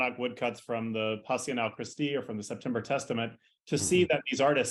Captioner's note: non-english